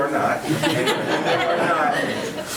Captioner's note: all laughing